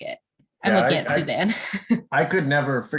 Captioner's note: laughs